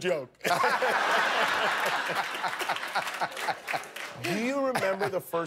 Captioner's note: laughter